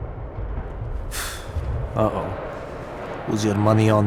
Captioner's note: scoff